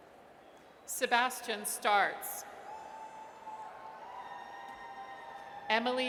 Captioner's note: audience cheers